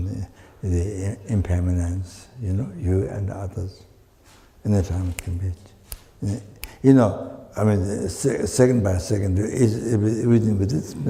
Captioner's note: snaps his fingers